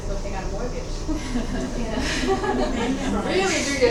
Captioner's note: everybody chuckling